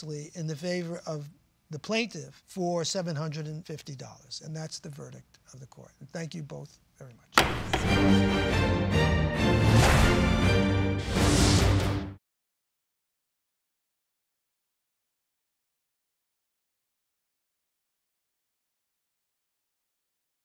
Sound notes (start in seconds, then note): 7.3 gavel banging; 7.4 dramatic music